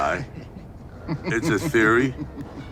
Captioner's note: both giggling